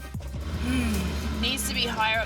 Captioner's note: car revs